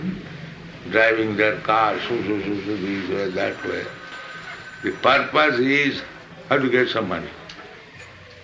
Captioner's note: makes noise of cars